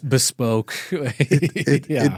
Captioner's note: laughs